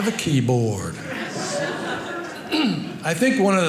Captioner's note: audience laughing